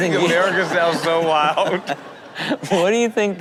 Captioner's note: Rob laughing